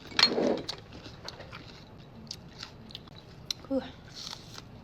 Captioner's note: chewing